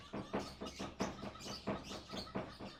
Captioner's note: Jewla continues to knock on the door